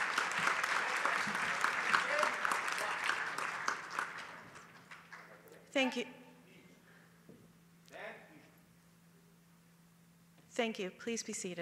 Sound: applause

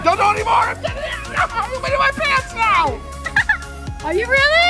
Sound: laughs

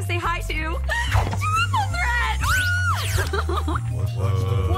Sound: shouts

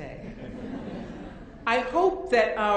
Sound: audience laughing

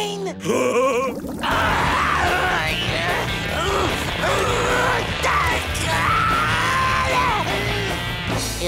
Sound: laughing; grunting

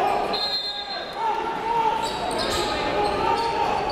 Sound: whistle blows

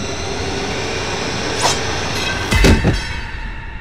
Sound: whooshing sound

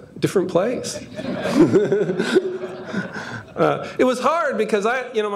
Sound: audience laughing

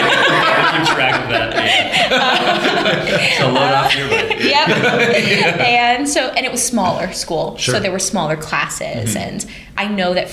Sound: laughter

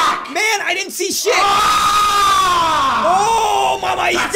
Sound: Hark, 39's roar of anger!

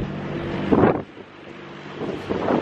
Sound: strong wind hits the camera; strong wind

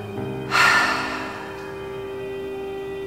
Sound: inhale; exhale

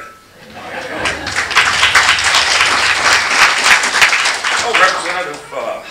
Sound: applause

